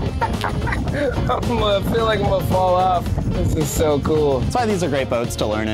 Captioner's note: laughs